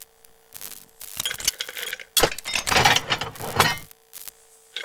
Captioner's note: electrical interference, tools clattering